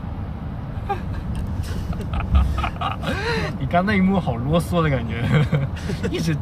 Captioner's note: wheezing